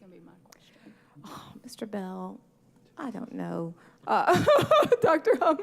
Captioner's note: laughs